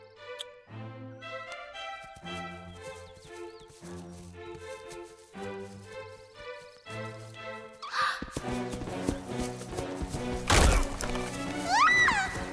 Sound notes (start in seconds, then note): 6.2 gasps